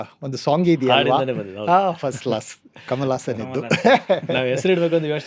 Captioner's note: laughs